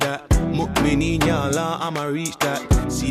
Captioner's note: non-english